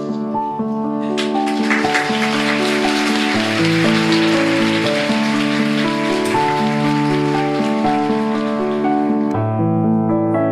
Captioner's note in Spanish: Aplausos